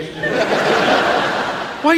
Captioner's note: audience laughs